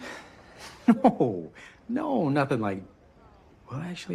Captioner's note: chuckles